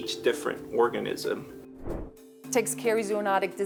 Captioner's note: screen whooshes